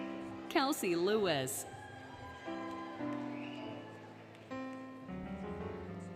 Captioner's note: applause, Cheering, Music